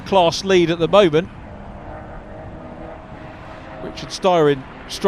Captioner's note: car engines revving